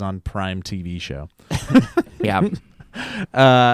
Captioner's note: laughing